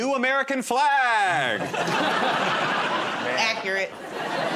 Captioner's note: laughter